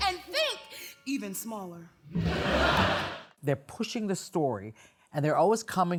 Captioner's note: laughter